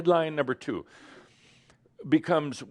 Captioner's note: none